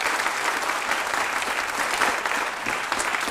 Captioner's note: applause